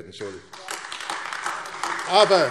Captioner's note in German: Beifall AfD